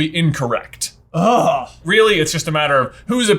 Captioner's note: groans